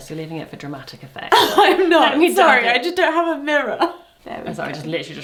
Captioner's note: laughs